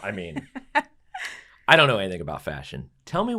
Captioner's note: laugh